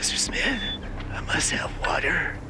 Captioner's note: says in a weak voice